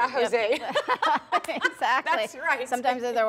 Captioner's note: laughing